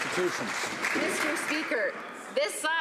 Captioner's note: some Applause